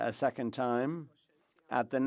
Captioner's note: speaking French